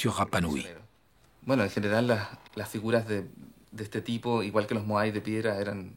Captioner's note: Spanish spoken audio